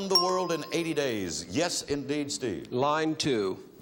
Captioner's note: bell chimes